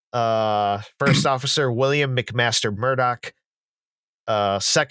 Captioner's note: tiny snort